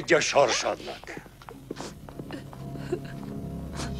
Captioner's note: sobbing continues